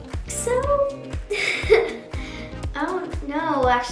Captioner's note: laughs